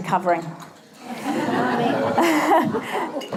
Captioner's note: laughter